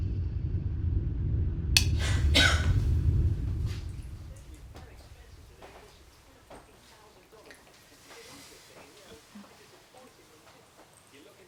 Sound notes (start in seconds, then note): 1.8 coughing